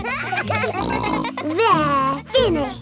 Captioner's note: kids giggling